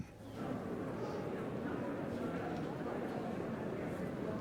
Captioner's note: crowd chattering